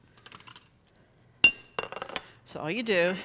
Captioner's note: clinking